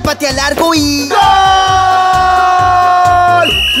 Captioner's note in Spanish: Sonido de silbato